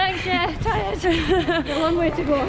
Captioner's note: laughs